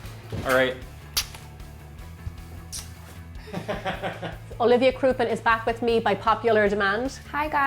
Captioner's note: smooches; laughs